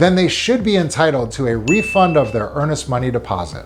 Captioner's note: bell dinging